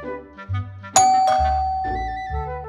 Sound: doorbell ring

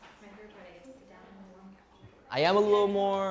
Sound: work chatter

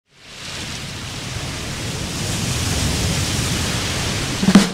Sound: waves crashing

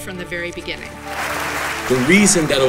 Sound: clapping

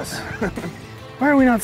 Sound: laughter

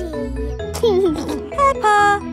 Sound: giggling

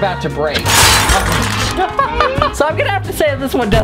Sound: glass shattering; laughing

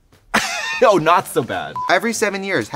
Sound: laughing

